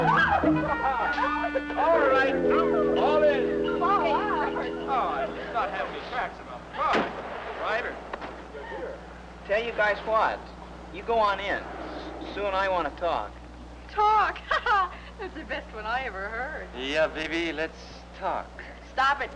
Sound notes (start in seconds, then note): 0.0 kids laughing; 4.1 kids chattering; 14.3 laughs